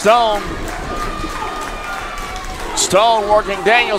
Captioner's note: crowd cheers